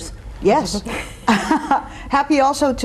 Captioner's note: laughs